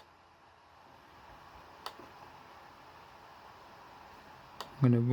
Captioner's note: laptop dvd drive spinning